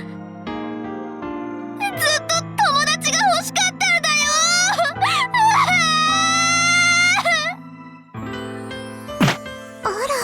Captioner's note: sob